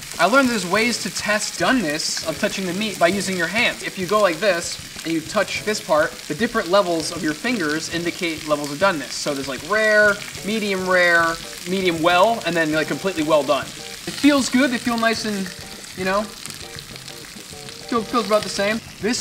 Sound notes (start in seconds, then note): none